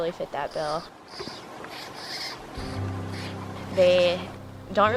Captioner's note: gray Jays squawking